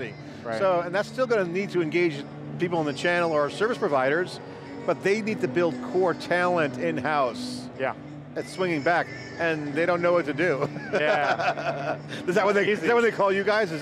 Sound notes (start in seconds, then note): 10.6 laughter